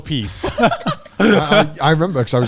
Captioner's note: all laughing